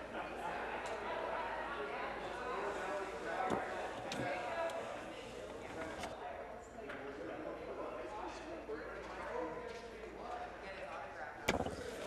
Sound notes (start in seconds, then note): 0.0 crowd Noise